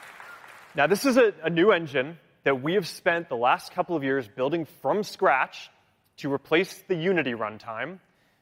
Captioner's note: cheering